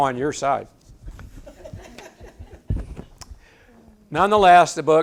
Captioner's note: audience laughs